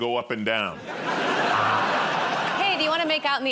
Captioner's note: laughter